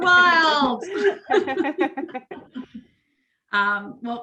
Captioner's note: laughter